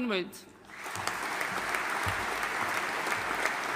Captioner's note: audience applauding